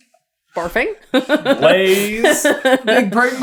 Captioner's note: laughing